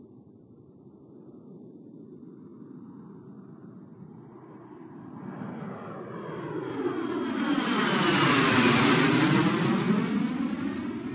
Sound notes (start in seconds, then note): 1.3 airplane engine roars